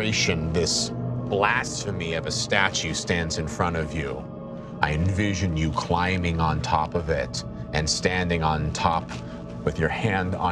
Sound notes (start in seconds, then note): none